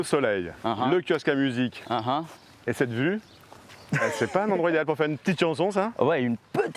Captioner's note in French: rires